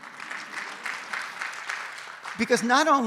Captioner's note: audience applauds